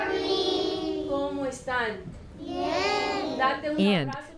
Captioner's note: speaking Spanish